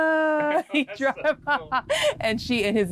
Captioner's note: laughs